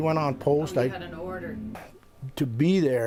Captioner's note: voiceover